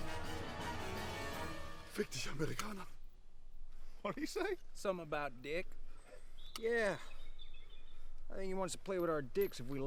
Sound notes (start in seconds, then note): 3.9 laughs